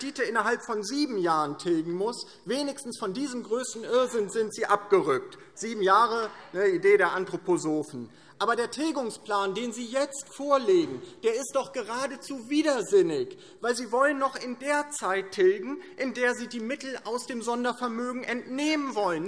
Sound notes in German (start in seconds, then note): none